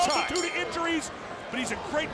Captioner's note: bell rings